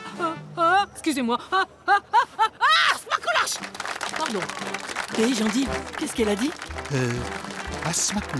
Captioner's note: laughs